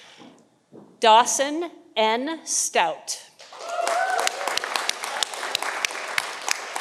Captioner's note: audience applauding